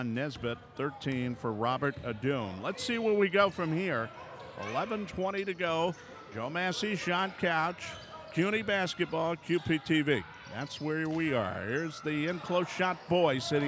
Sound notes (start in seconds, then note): none